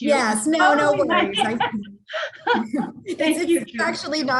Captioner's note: laughter